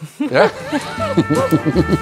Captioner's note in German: Gelächter